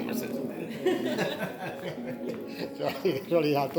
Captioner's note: laughter